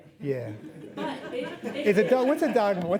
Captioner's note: laughing